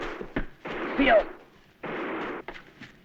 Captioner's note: non-english speech